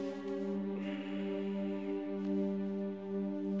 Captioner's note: sighs